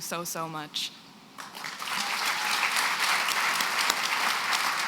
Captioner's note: applause